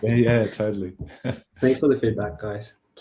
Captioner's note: laughs